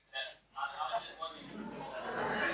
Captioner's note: laughter